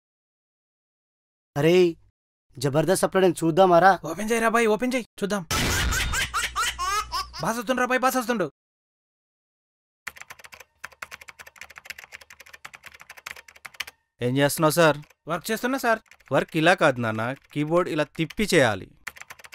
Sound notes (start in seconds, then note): 10.0 keyboard Sounds